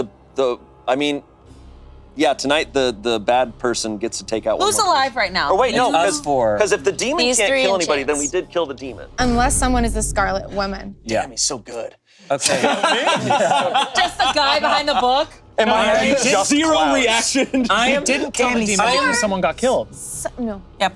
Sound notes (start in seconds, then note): 12.2 group laughing; 12.2 laughs